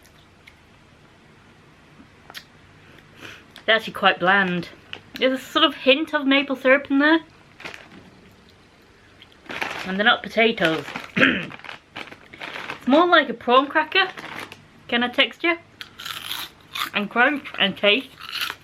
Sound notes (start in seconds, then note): 11.1 ahem